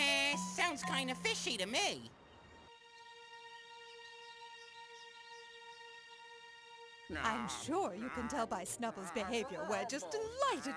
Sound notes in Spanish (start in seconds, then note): 7.1 gruñendo